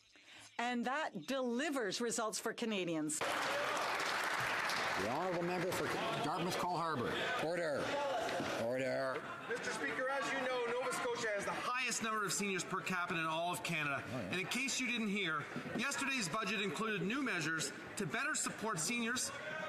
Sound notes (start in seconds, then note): 5.6 some Applause